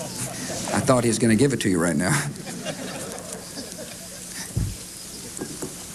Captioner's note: laughter